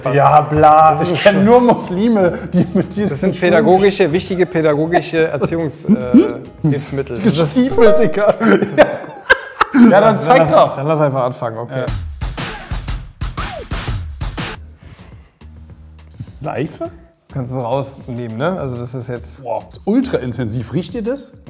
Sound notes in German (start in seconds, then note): 8.2 lacht; 12.5 Rhythmische Musik